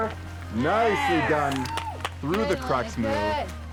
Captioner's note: all cheer